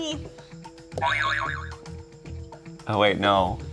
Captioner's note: springing sound